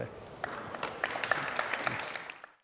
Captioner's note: applauds